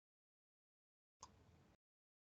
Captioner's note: typing sounds